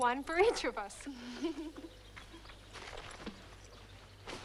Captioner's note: both laugh